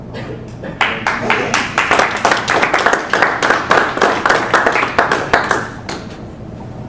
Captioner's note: applause